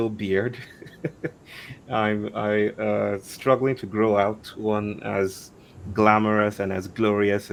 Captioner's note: chuckles